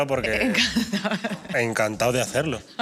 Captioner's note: she laughs